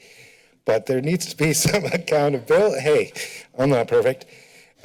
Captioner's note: laughs